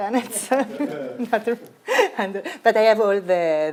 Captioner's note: laughs